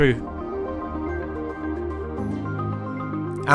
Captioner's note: voiceover